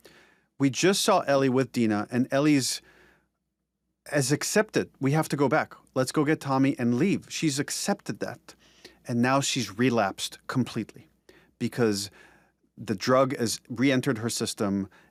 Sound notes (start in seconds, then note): none